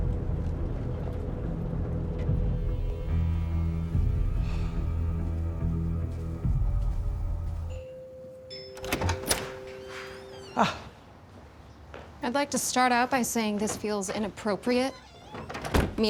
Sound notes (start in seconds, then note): 0.0 tense acoustic music; 7.7 doorbell rings